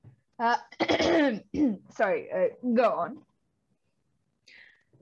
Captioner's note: clears throat